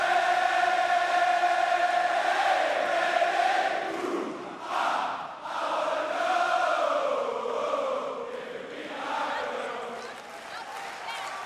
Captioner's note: crowd cheering